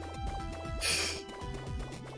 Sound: laughs softly

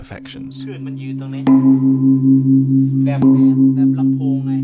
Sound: gong sounds

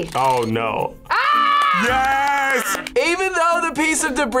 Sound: screams

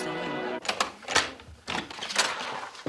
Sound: door opens

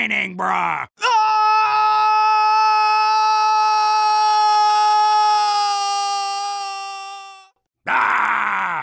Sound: Scout screaming

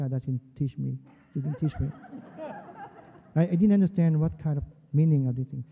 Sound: laughter

